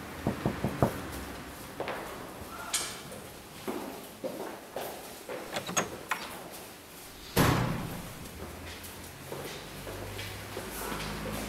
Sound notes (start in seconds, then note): 0.2 loud knock; 1.8 heavy footsteps; 5.5 door knob clicking; 7.3 door banging; 7.5 loud footsteps